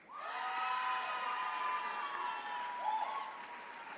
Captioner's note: attendees cheering